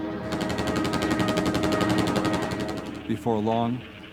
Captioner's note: machine guns rattling